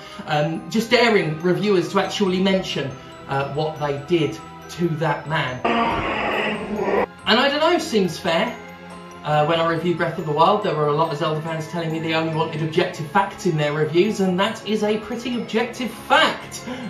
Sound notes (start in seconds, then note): 5.6 monster noises